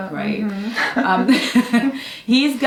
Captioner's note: both giggling